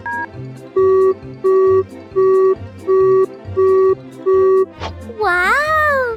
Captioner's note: beep beep beep